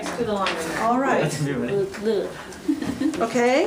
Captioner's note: voiceover